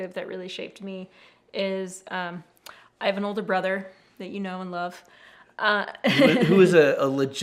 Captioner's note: laughs